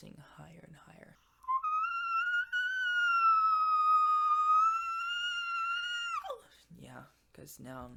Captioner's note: vocalizes in whistle